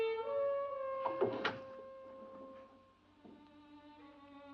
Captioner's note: jimmying door